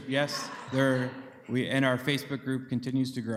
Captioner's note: group laughter